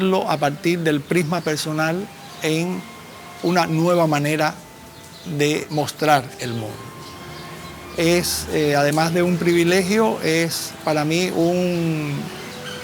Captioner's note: speaking spanish